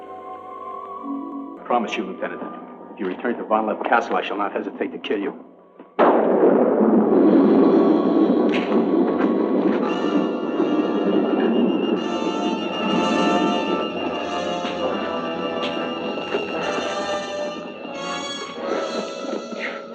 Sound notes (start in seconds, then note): 5.9 thunder crashing; 9.8 tense music